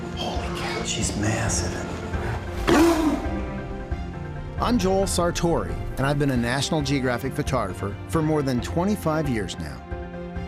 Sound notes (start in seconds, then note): 2.2 growls